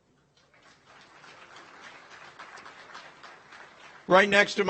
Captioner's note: audience applauds